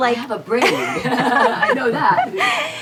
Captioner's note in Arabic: يضحك